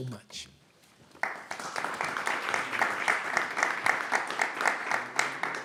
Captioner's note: audience applauding